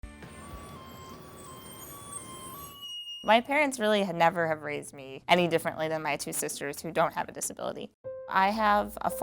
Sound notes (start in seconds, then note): 2.1 NATSOT: beeping